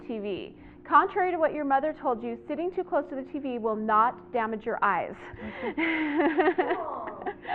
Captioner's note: laughter